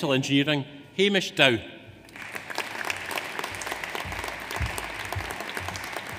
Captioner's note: audience applauds